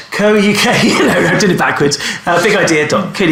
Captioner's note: laughs